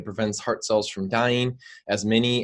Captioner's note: none